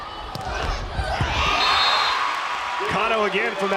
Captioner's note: crowd and players cheering